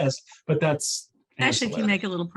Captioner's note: chuckling